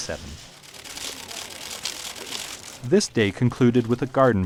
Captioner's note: camera shutter sounds